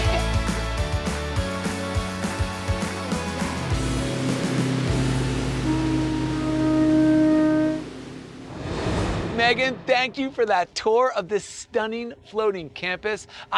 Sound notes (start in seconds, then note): 0.0 upbeat music; 4.6 ship horn